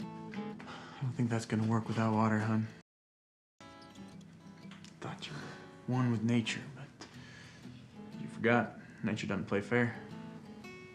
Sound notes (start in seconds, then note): 0.8 sighs